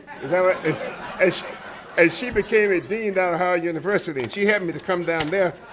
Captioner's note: laughter